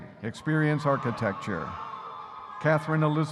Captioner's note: audience cheering